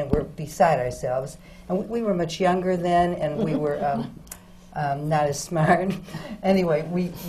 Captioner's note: laughs